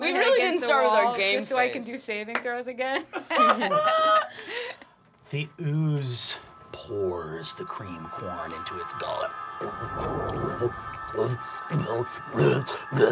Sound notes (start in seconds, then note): 3.1 laughing; 9.0 grotesque swallowing